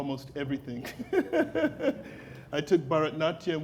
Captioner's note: laughing